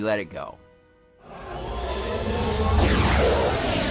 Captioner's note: snarling